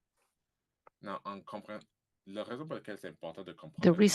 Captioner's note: speaking french